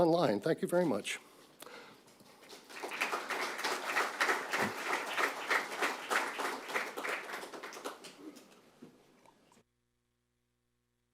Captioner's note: applause